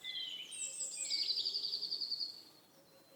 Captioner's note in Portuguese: pássaros cantando